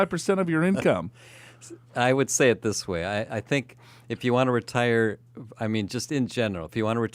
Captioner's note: laughs